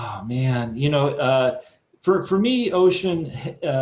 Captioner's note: sighs